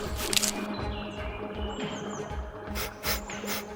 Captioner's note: twig snaps